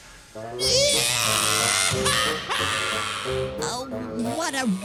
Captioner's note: Franklin starts wailing